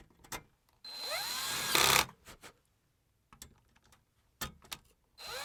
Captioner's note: power drill whirring